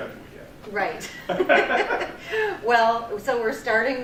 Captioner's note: laughter